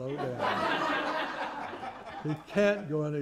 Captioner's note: laughter